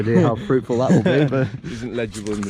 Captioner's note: laughing